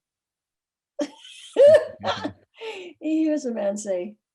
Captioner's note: laughs